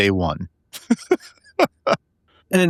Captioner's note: laughing